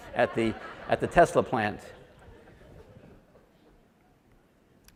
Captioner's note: audience laughs